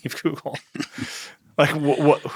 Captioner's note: chuckle